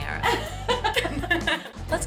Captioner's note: laughter